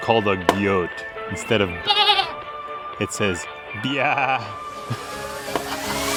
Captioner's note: goat call